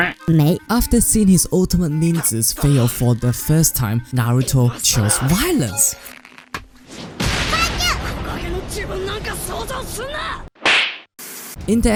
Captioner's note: slap